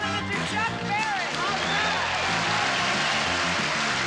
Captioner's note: applause